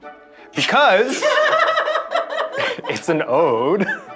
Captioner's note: laughter